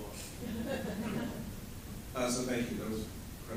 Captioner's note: laughter